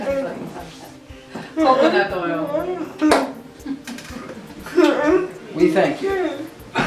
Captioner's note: laughter